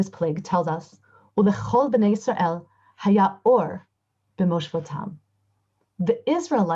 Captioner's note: Hebrew